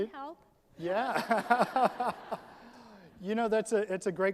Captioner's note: all laugh